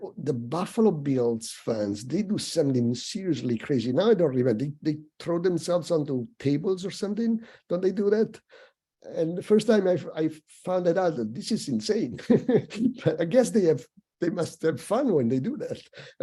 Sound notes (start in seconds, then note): 12.1 chuckles